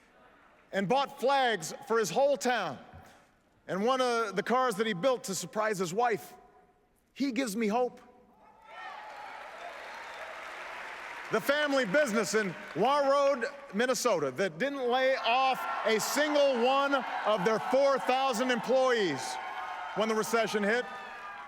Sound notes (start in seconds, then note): 9.7 applause